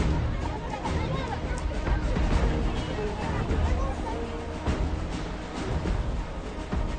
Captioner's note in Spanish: Bullicio